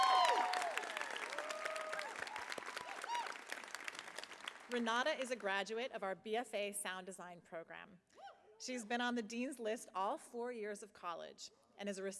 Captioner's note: cheering; applause